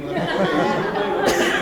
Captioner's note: laughter